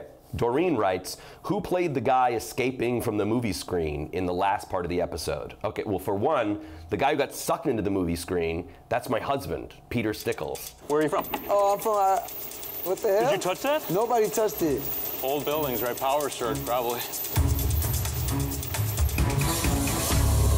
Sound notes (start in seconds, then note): 11.9 projector clicks; 19.3 electricity crackles